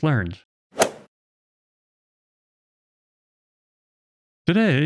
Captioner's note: golf ball hit sound effect